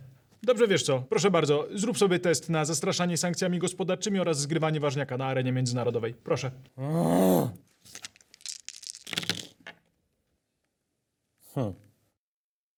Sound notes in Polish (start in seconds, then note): 6.8 Filandrel wzdycha